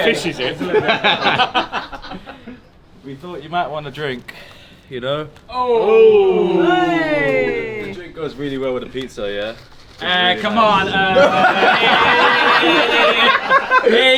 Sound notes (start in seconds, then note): 0.0 laughs; 5.7 all gasp; 10.6 all laughing